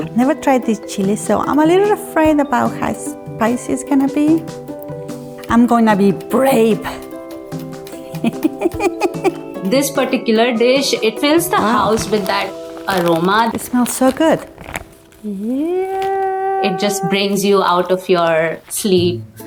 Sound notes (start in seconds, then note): 8.0 chuckles